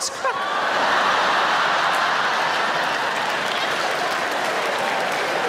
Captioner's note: audience laughing